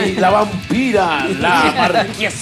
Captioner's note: laugh